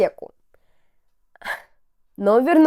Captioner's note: sigh